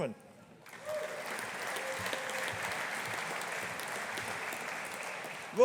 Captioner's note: audience applauding